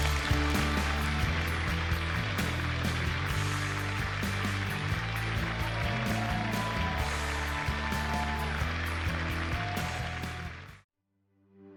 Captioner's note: audience applauding